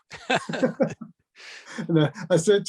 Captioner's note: laughter